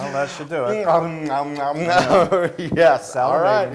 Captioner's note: laugh